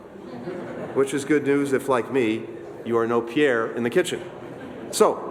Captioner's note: laughter